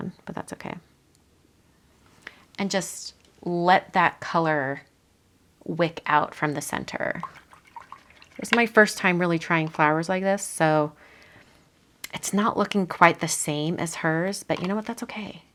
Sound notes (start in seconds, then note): 7.1 water splashing